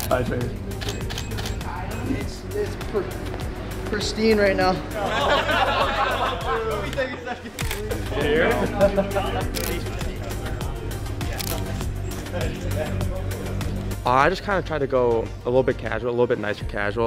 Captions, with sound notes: [Camera Clicks] - Pristine right now. [ Laughter] [Camera Clicks] [Camera Clicks] [Camera Clicks] - I just kind of tried to go a little bit casual, a little bit nicer casual.